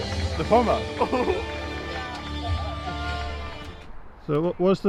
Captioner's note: giggling